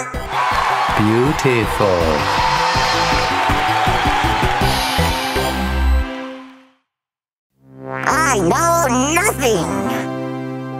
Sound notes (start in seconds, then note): 1.6 applause; 2.5 cheering